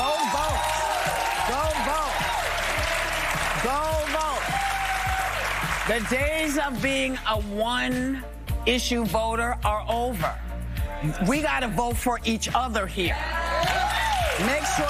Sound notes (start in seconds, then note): 6.0 cheers and applause